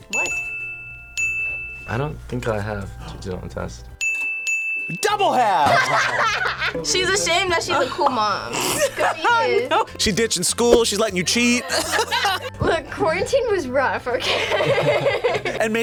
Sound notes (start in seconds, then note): 5.4 both laugh; 8.5 laughs; 11.3 both laugh; 15.2 laughs